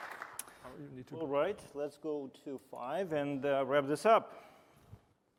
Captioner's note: applause